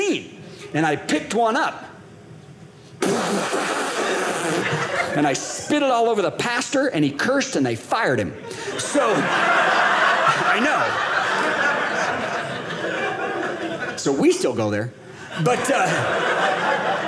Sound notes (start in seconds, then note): 2.9 spitting sounds; 10.7 audience laughing; 15.3 audience laughing